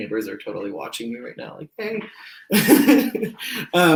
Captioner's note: laughs